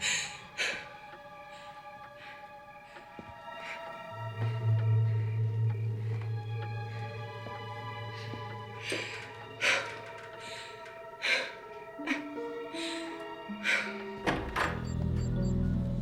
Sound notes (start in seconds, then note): 0.2 soft suspenseful music; 9.7 hard breathing; 12.5 soft suspenseful music